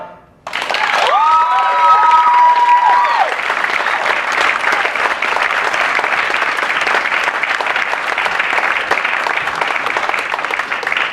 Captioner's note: applause